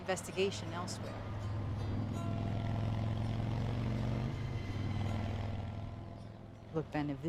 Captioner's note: rv engine whirring